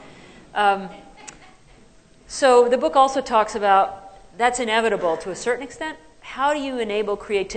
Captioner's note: laughter